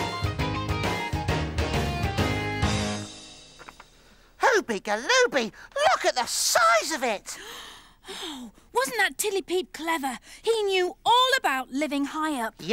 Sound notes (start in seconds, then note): 0.0 whimsical music; 7.3 gasps